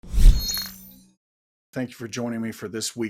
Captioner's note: electronic sound